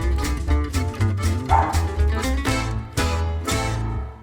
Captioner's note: dog barks